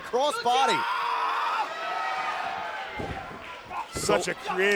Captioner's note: crowd chatter